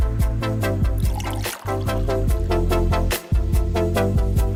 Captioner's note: liquid sloshing